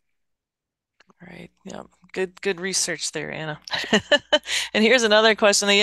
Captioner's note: laughs